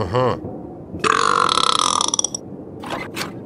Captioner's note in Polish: beknięcie